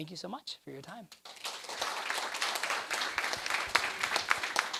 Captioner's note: applause